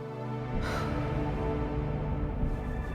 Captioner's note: sighs